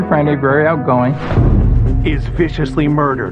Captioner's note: air whooshihing